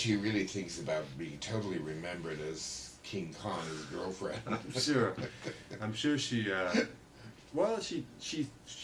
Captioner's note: laughter